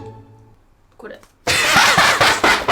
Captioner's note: mother answering in Japanese; laughing